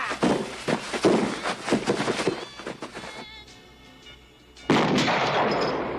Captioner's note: screaming